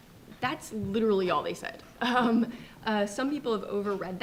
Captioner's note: chuckles